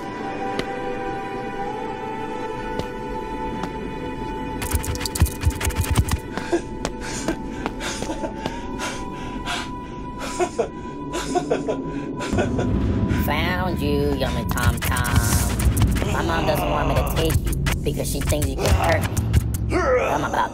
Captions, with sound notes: (Papi laughs) - Found you, yummy tom-tom. My mom doesn't want me to take you because she thinks you can hurt me.